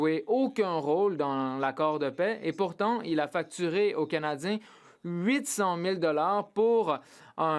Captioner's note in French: voix de l'interprète